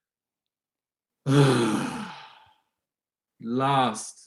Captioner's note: Helmer sighs